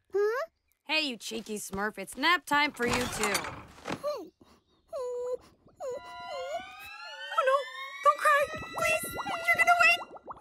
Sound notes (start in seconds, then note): 4.9 whimpering